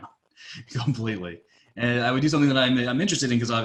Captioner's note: laughing